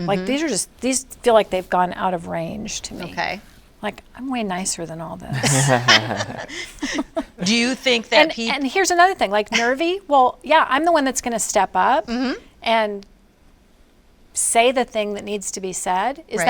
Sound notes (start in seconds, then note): 5.3 all laughing